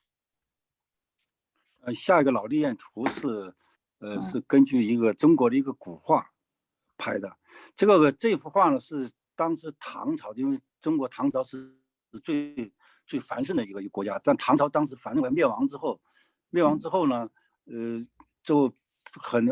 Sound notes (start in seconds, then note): 2.5 speaking in foreign language